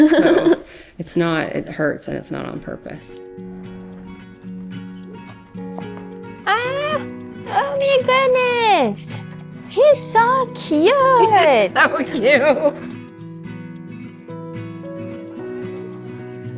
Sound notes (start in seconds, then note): 0.0 laughing; 3.2 bright music; 12.2 laughing; 12.9 bright music continues